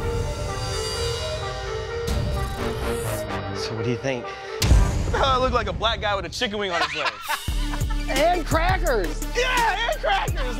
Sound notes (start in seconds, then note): 0.2 dramatic music; 6.5 tattoo artist laughs